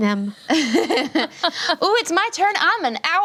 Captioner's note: laughing